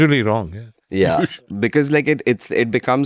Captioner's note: laughs